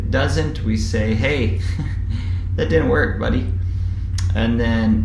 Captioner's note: laugh